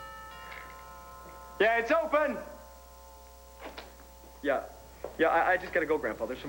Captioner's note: doorbell rings